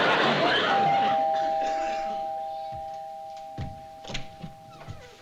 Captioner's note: door bell chimes; door squeaks